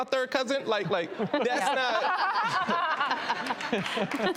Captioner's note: laughs